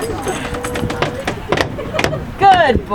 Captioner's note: stomping